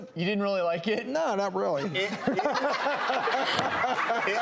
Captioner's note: laughing